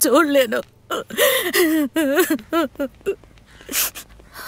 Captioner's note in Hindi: रोना